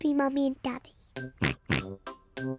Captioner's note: oinks